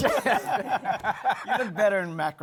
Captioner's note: laughter